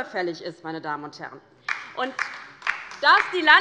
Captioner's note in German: Beifall bei der LINKEN